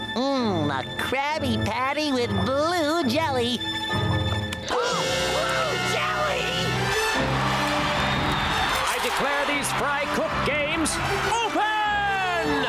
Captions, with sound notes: Mmm, a Krabby Patty with blue jelly. Ah, blue jelly! [cheering] I declare these fry cook games open!